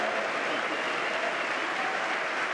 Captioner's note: cheers; applause